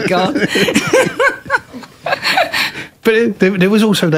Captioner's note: laughter